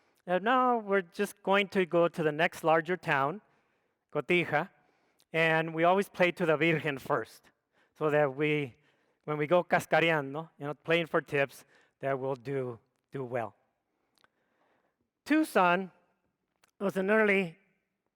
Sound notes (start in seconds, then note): 9.1 speaks foreign language